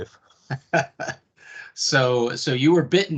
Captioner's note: chuckles